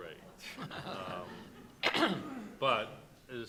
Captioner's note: audience and panelists laugh